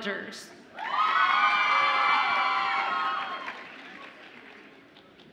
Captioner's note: audience applauds and cheers